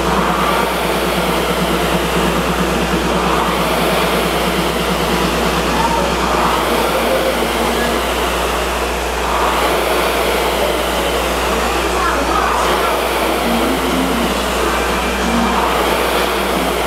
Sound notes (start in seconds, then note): 9.3 rower roars lightly